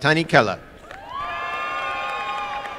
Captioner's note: applause and cheering